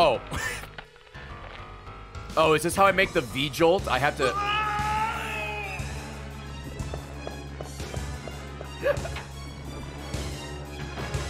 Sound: laughs; Chris screams

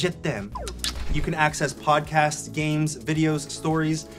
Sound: smooches

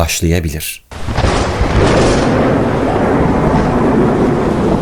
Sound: thunderstorm sounds

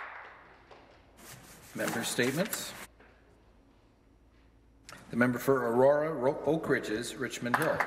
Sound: some Applause

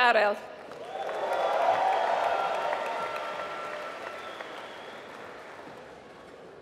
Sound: applause

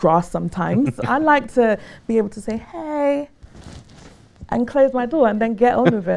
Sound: laughter

